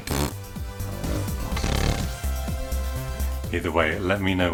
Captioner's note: raspberry